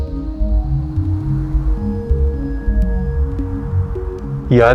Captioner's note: gentle wind